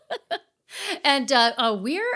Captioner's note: laughing